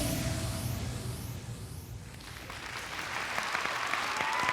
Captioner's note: applause